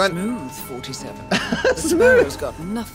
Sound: laughs

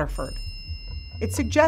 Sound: phone chimes

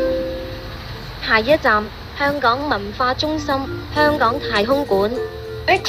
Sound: Cantonese

